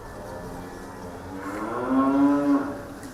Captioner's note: cow moos